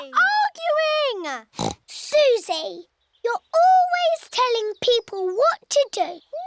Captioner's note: oinks